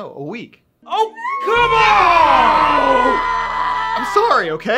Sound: screaming

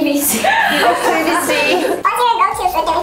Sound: laughing

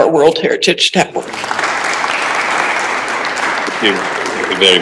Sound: applause

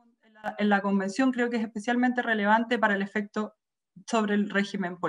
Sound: speaks foreign language

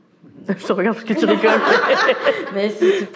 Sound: laughs

